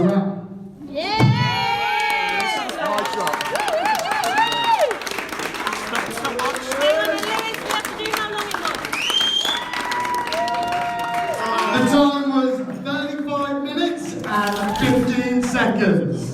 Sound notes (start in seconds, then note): 2.1 cheering and Applause